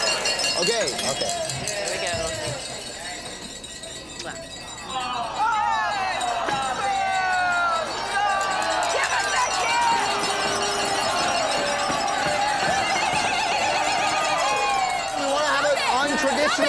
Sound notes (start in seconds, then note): 5.0 crowd boos; 10.4 crowd cheering; 10.4 glasses clinking